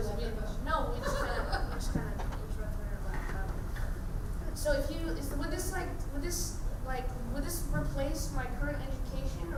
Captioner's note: laughing